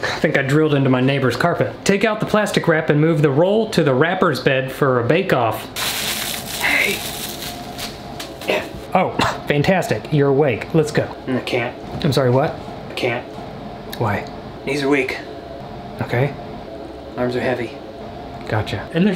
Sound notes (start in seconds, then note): 5.7 plastic rustling